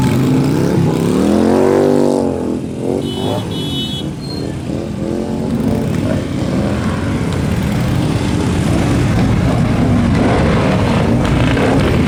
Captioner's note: sound of roaring motorcycle engines